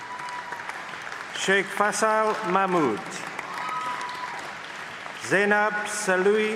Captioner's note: applause